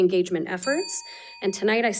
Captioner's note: bell dinging